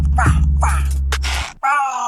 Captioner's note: cracks neck; moaning in pain